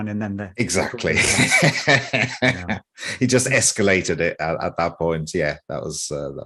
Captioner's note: laughs